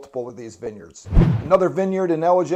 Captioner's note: air whooshing